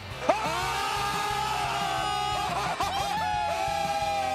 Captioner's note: jubilant cheering